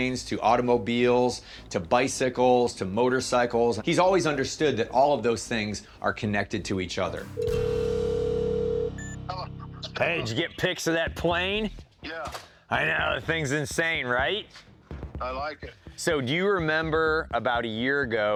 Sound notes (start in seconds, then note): 7.3 phone line ringing